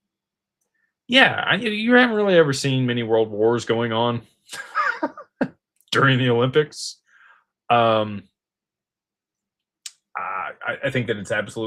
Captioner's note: laughter